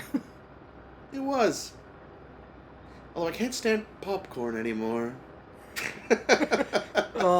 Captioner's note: laughter